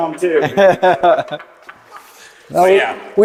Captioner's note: laughing